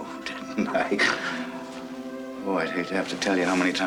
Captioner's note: laughing